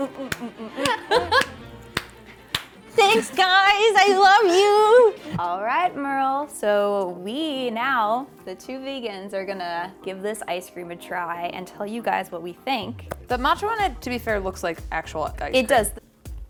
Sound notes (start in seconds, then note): 1.9 clapping